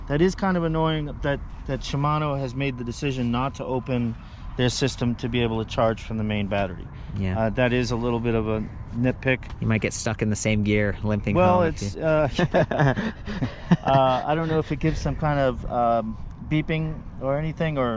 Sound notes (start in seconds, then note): 11.4 laughs